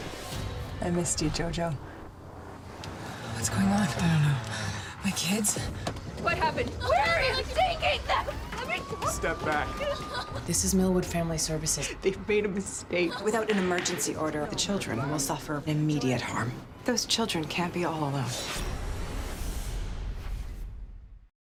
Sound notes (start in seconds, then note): 6.5 door opens; 9.8 woman cries